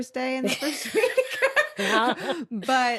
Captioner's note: both laugh